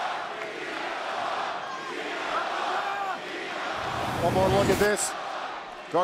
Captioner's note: crowd cheering